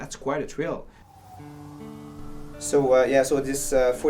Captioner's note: calming guitar music; ambulance siren